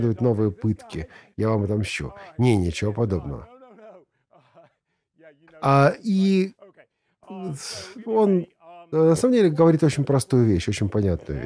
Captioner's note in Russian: смеется